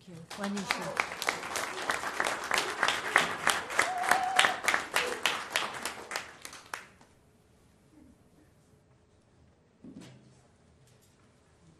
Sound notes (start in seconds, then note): 0.0 singing continues; 0.1 applause